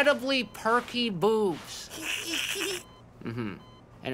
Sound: giggling

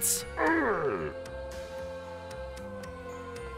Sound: man groans

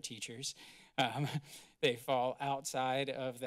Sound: giggles

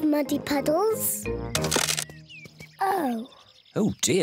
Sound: cracking

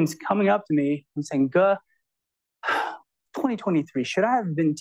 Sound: exhales

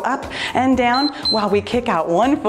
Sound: timer beeps

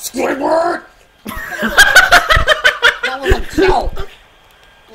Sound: laughs

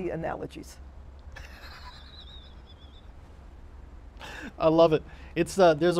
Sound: laughing

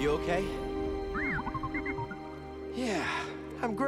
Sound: lively beeps

